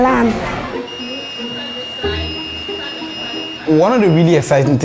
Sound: devices beeping

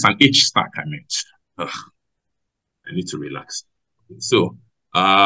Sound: scoffs

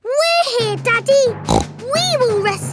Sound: snorts

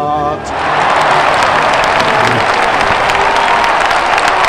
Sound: music and well-deserved cheering; tumultuous applause

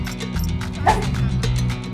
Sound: dog barks

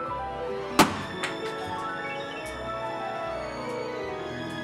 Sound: balloons pops

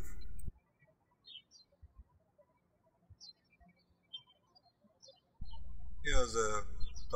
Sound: birds chirping

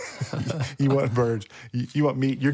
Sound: both laugh

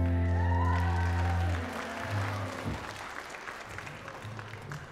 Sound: applause, cheering

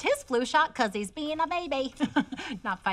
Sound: chuckles

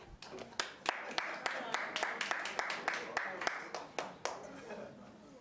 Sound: audience applauding lightly

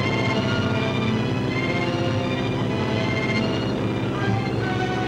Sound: plane engine buzzing

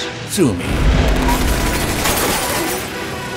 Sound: gunfire; glass shattering

